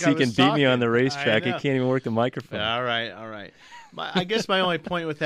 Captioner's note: laughs